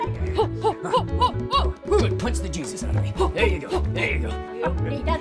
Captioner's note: Leah yells more gibberish